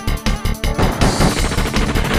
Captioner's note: upbeat Style Music; machinegun Firing; rifle Shots